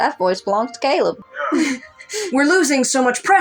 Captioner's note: both Chuckle